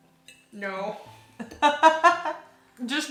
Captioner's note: laughs